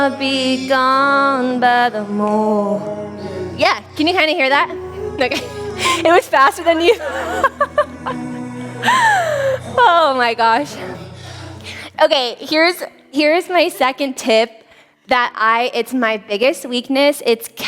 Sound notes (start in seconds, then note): 7.4 laughs